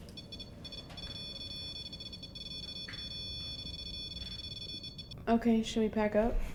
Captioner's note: REM pod beeps